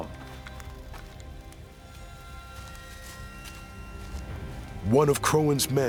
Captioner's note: flames crackling